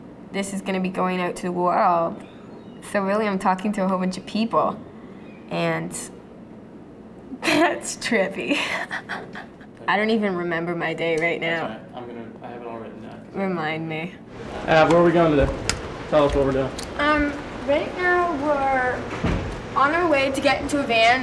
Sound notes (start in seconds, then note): 8.4 laughs